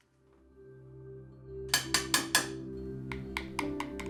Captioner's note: clicking